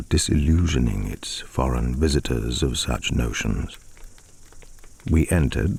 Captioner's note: fire crackling and night insect buzzing